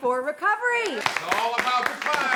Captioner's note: group claps